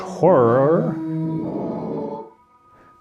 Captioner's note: monstrous Howl